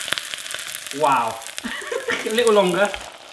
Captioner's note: laughing